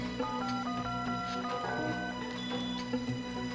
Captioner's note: touch tones